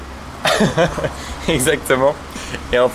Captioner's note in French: rires